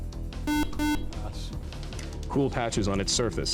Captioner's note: buzzer